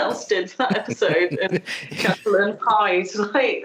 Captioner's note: laughing